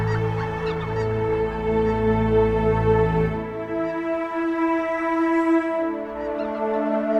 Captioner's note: geese Honking